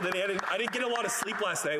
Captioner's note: applause